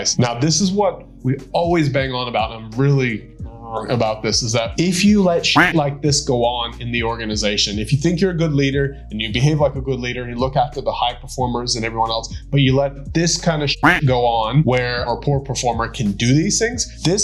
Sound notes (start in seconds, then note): 3.5 grumbles; 5.5 duck quacking; 13.8 duck quacking